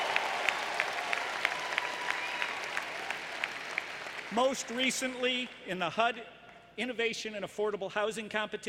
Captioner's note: applause